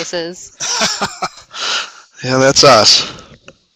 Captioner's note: laughing